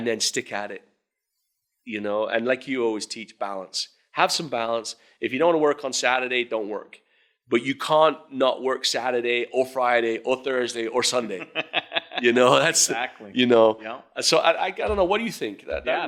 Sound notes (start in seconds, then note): 11.2 laughing